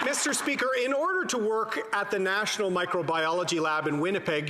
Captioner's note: some Applause